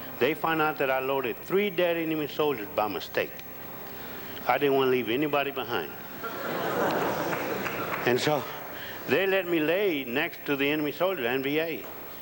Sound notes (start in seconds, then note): 6.1 audience laughs